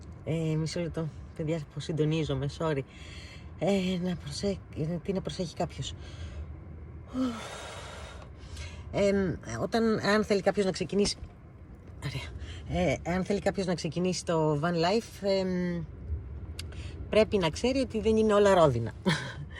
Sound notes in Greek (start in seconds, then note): 7.1 αναστενάζει